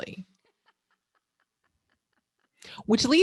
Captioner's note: laughing